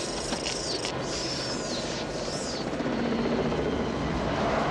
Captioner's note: squealing